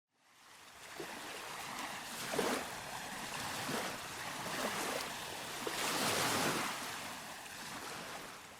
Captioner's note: sounds of waves